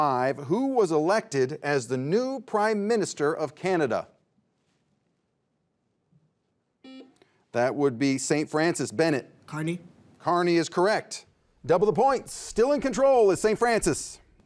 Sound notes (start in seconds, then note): 6.8 buzzer beeps